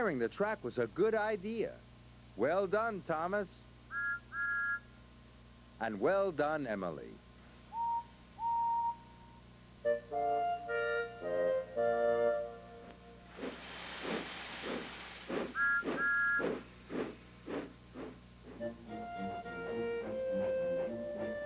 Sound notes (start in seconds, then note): 3.9 Thomas toots whistle; 8.3 Emily toots whistle; 13.2 steam hissing, engine chugging; 15.4 whistle toots